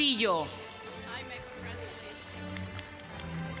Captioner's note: applause